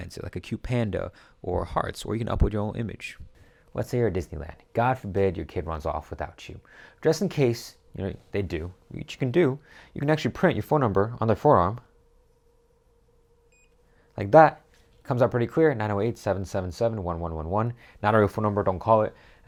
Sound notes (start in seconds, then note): 13.4 beeping